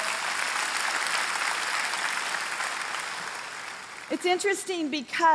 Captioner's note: congregation applauding